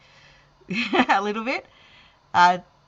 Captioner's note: chuckling